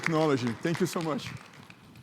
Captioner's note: crowd applauds